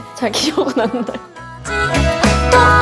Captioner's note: laugh